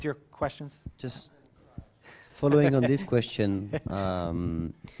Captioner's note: laugh